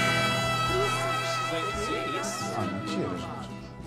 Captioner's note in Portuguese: Vozes coletivas